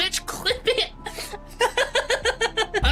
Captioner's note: laughing